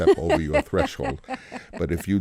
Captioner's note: laughter